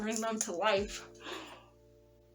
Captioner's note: gasp